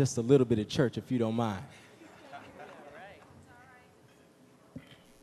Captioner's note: audience laughing